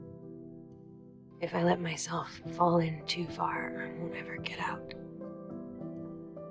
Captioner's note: voiceover